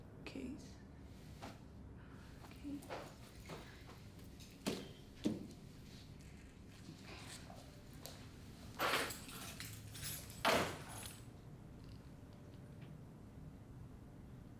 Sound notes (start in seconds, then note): 8.8 keys jangling and thudding